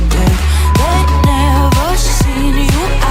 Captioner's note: timer beep